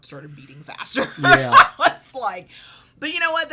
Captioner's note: laughs